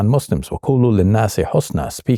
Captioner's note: speaking in foreign language